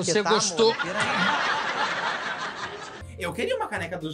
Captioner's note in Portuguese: plateia ri